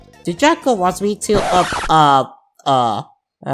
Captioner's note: record scratch